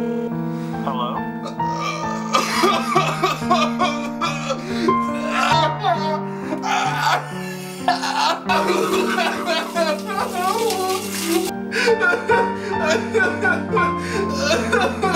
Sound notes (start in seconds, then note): 1.4 crying; 6.6 wailing; 7.8 bawling; 11.8 snivelling